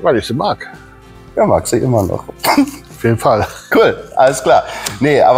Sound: laughing

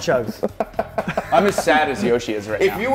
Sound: laugh

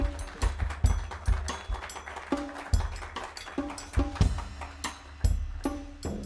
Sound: applause

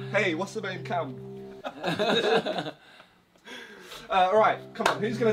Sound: all laughing

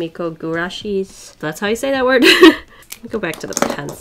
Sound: laughs

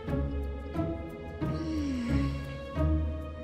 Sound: yawns

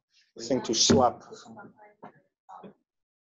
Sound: chatter

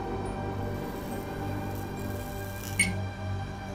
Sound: ominous music; lights flicker

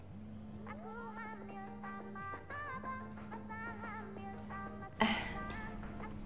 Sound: ringtone playing

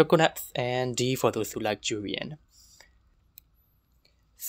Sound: also breathes in

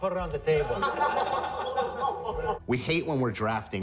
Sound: all laughing

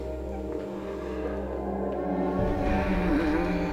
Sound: moaning

